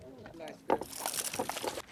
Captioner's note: splash